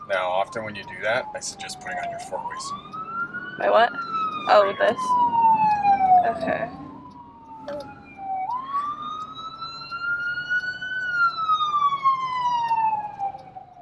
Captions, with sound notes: - Now often when you do that, I suggest putting on your four-ways. - My what? Oh, this? Okay. (siren wailing)